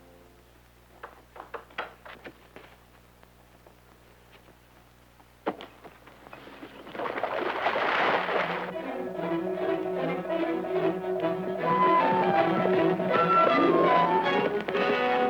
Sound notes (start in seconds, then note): 6.4 water splashing; 8.6 lively music